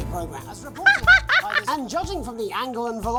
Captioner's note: cackles